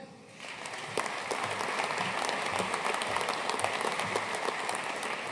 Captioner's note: audience applauding